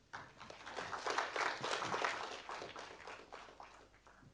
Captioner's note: audience applauding